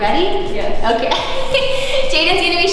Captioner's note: laughs